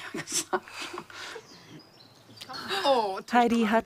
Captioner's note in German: Vogelzwitschern